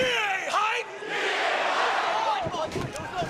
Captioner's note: crowd cheering